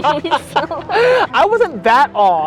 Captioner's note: both laughing